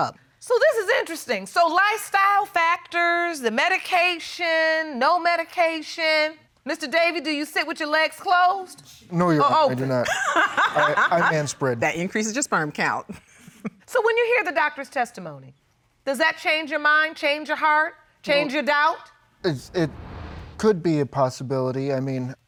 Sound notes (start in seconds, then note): 10.0 laughter; 13.0 laughs